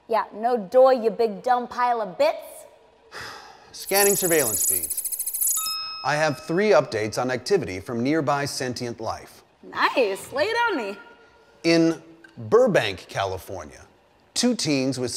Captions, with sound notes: - Yeah, no doi you big dumb pile of bits. - (sighs) Scanning surveillance feeds. (beeps) I have three updates on activity from nearby sentient life. - Nice, lay it on me. - In Burbank, California two teens with